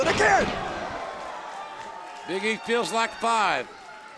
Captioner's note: crowd cheering